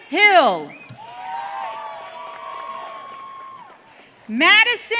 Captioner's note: audience cheering